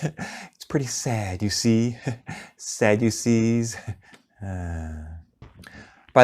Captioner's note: sigh